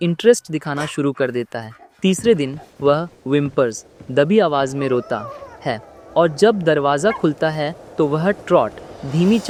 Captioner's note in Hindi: दबी आवाज़ में रोता